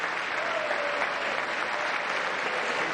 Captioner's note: applause